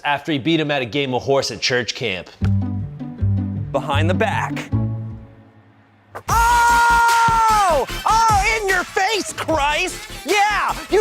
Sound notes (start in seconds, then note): 2.3 playful music; 6.2 cheering